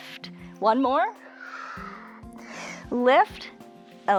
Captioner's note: exhales and inhales